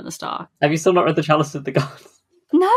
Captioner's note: laughing